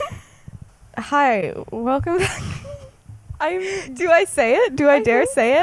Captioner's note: laughs